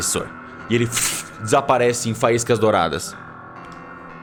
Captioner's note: pff